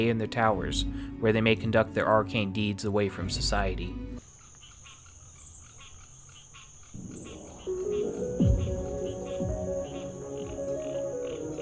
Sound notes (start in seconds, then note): 4.1 crickets chirping; 7.0 light electronic music